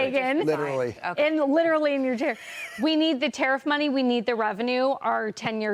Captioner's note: laughter